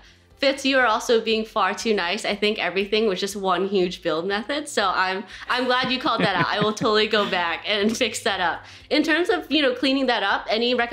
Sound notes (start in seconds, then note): 5.5 laughs